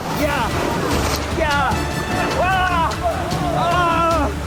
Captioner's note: men yelling